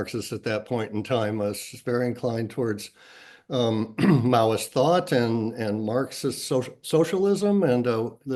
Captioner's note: cough